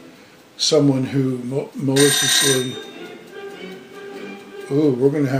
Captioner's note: timer rings